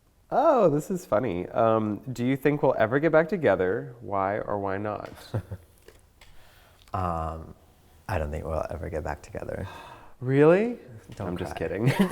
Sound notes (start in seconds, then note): 9.6 gasp; 11.8 laughter